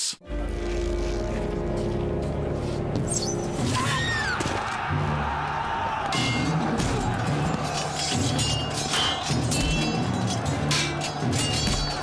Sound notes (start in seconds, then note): 0.1 ominous music; 3.7 scream; 4.4 battle cry; 7.5 swords clanging